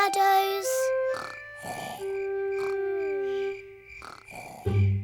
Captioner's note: george snoring